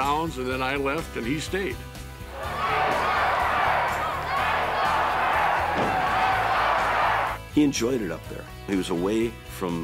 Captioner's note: applause